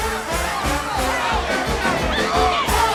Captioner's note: clamoring